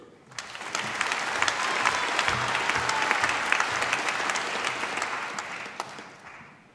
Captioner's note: applause